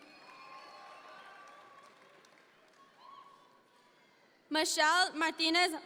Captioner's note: audience members cheer